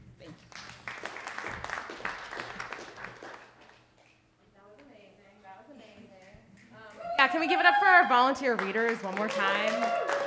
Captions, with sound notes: Thank you. (audience applauding) - That was amazing. That was amazing. Can we give it up for our volunteer readers one more time?